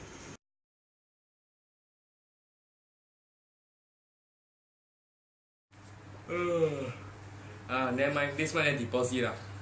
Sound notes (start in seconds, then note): 6.2 yawns